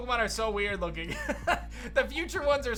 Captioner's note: laughs